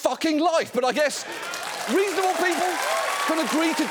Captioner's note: audience cheers, applauds